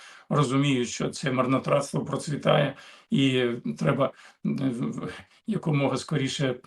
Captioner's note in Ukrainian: прочищення горла